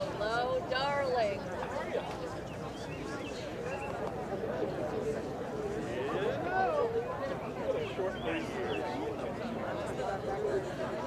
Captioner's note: crowd noise